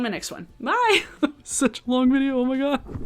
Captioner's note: laughs